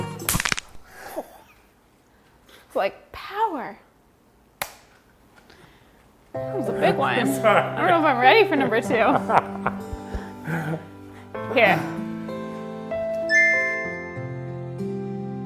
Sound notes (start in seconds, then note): 0.2 hands slapping; 0.3 bone cracking; 4.6 hands slapping; 8.4 laughing; 12.2 somber piano music